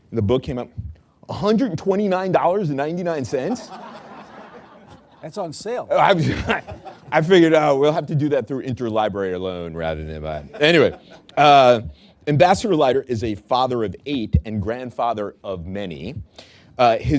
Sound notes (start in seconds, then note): 3.4 laughter; 6.0 laughs